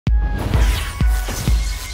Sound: loud whooshing

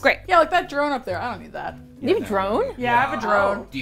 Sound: excitedly

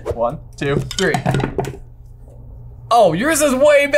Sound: tablets clanking

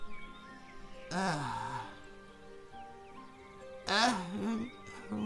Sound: Sylke sighs; Sylke mumbling

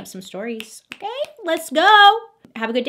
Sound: finger snaps

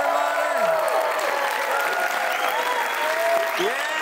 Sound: cheering and applause

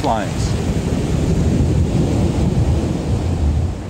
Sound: waves banging

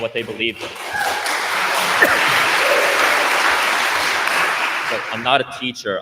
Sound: attendees applauding

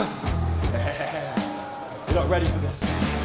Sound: laughing

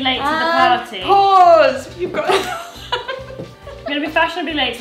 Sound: laughs

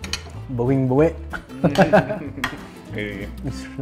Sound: laughs

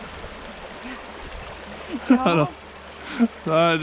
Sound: laughs

